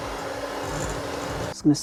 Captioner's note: hand mixer whirring